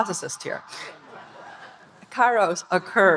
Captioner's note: audience laughing